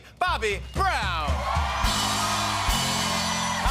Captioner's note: cheers and applause